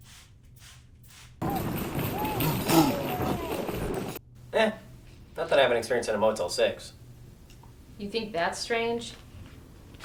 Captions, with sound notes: (mist spraying) (wind whipping) (distant voices yelling) - Eh. Nothing I haven't experienced in a Motel Six. - You think that's strange?